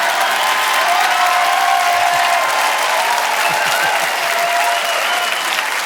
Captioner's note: audience cheering and applauding